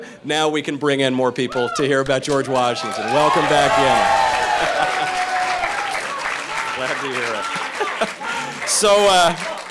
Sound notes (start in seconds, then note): 4.5 crowd cheering